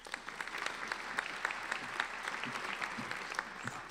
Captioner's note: applauding